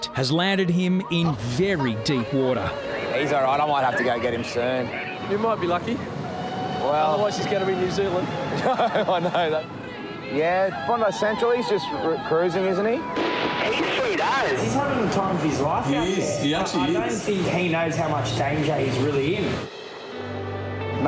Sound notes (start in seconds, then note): 8.4 laughing